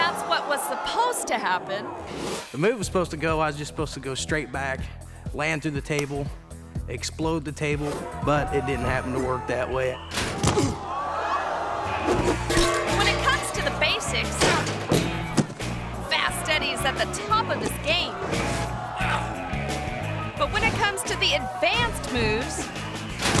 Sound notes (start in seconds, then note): 10.2 thuds; 12.1 metal clangs; 18.2 dramatic instrumental music; 23.1 thuds